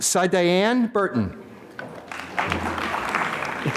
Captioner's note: applause